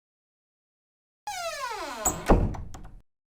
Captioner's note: door creaks and closes